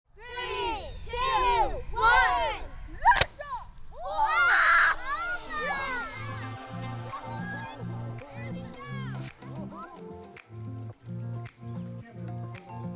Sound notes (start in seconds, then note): 4.0 kids Voices; 4.0 cheering